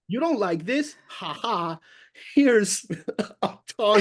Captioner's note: laughs